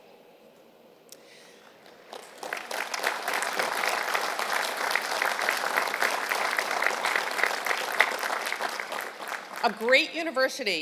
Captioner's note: applause